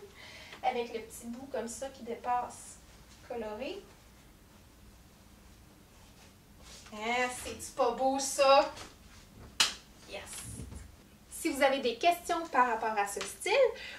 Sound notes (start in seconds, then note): 9.5 clap